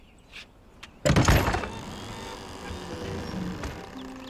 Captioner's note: door creaking